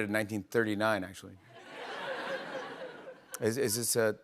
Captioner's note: laughter